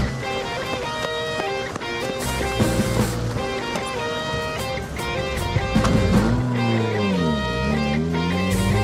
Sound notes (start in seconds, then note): 5.8 engine roars